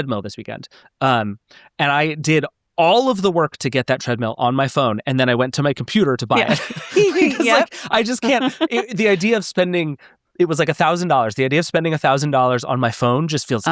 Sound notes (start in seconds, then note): 5.9 laughing